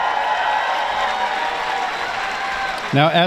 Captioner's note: applause